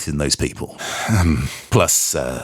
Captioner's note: sigh